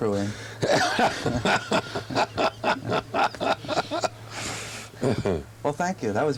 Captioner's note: laughter